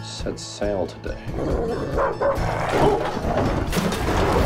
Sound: dog Barking

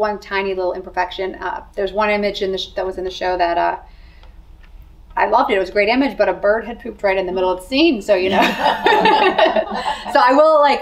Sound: laughter

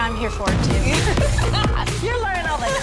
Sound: women laughing

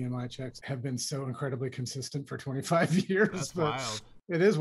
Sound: laughter

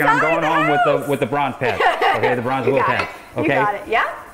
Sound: laughs

